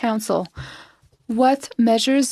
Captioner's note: speaking French